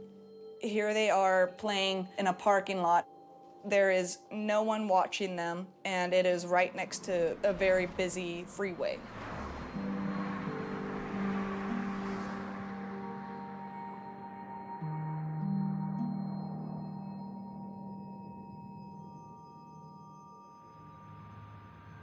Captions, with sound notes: Here they are playing in a parking lot. There is no one watching them and it is right next to a very busy freeway. [traffic passing by] [somber music]